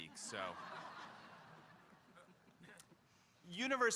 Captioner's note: audience laughing